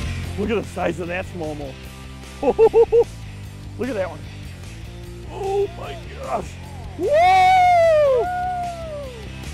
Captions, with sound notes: Look at the size of that smallmouth. (laughing) Look at that one. Oh my gosh. Whoo! - Whoo!